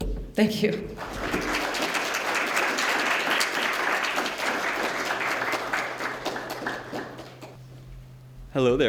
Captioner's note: applause